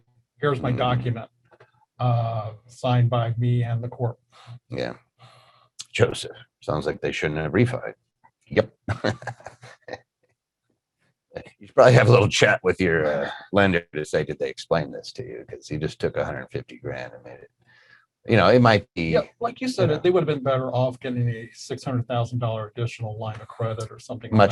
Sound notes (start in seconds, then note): 4.5 murmurs; 8.8 giggling